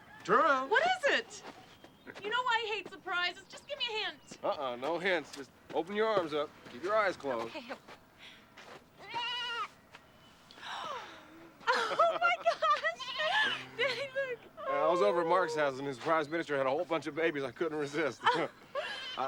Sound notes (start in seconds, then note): 9.0 goat bleats; 10.6 gasps; 12.5 goat bleats; 18.1 chuckles